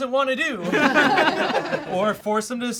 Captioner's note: all laugh